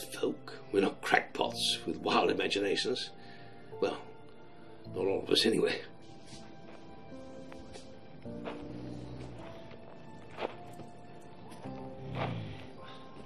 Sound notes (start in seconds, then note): 8.6 heavy footsteps; 11.8 growl